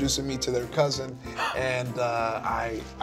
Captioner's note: gasping